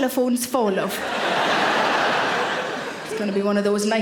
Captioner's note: audience laughing